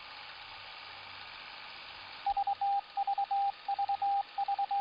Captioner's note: morse code beeping